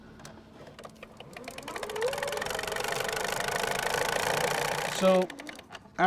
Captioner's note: reel spinning